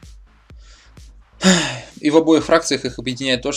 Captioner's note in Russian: вздох